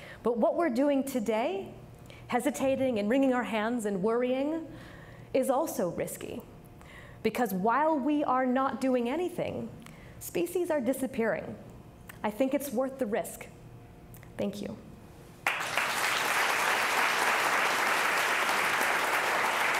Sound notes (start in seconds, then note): 15.4 audience clapping